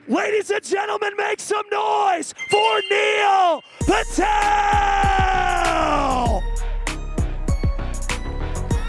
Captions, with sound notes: - Ladies and gentlemen, make some noise for Neil Patel. (screen chiming) (soft music)